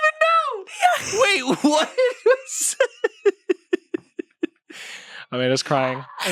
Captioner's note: everyone laughs